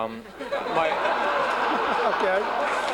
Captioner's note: laughter